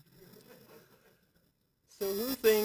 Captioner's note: laughter